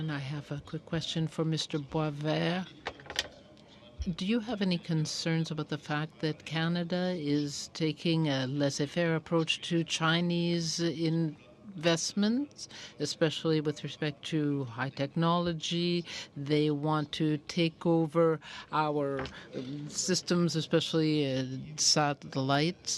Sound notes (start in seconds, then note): 2.5 speaking French